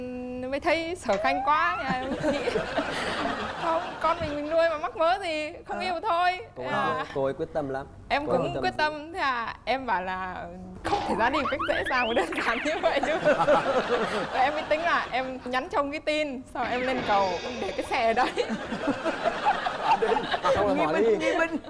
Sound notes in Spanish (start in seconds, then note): 13.3 risa